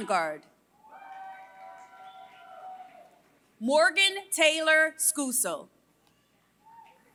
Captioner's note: applause